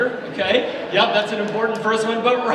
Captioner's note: audience laughs